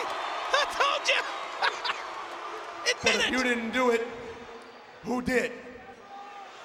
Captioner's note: laugh